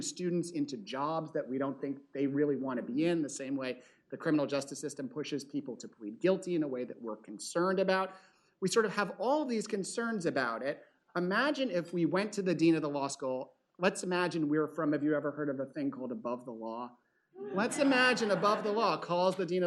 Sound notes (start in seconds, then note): 17.4 laughter